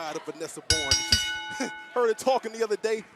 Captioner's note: bell ringing